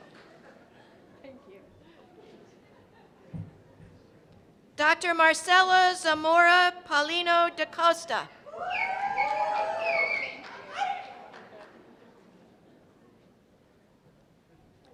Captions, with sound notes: Dr. Marcella Zamora Paulino DeCosta. (cheers and applause)